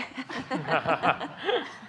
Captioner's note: laughing